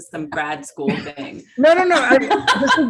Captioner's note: laughs